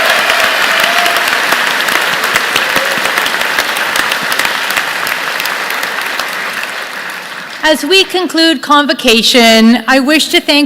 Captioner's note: applause